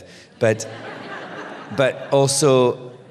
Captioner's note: laughter